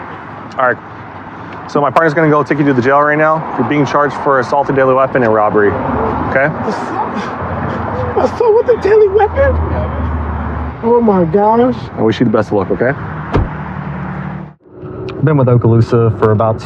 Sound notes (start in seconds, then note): 13.2 doooor r bangngs